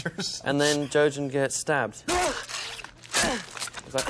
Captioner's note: jojen groaning